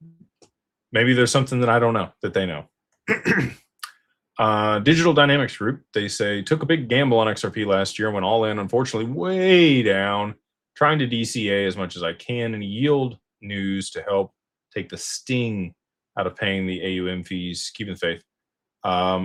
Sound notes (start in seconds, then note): 3.0 clears throat